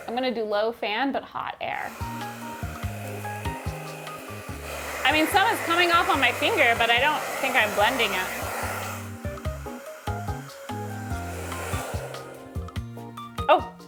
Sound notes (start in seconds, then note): 2.8 hair dryer whirring; 2.8 relaxing music continues; 10.1 relaxing music continues